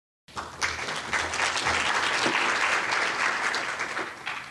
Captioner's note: audience clapping